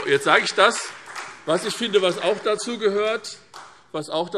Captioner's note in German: Beifall